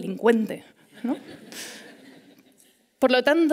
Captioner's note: laughter